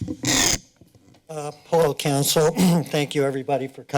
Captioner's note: clears throat